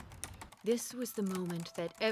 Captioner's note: typing